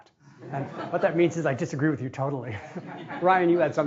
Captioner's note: laughing